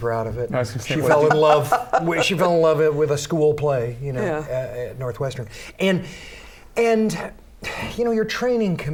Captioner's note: laughter